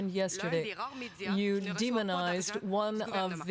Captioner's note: speaking French